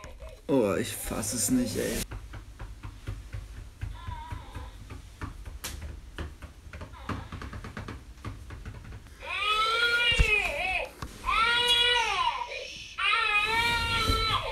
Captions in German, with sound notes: Ich fass es nicht. (Klopfgeräusche) (Baby schreit.) - Schhhhhh.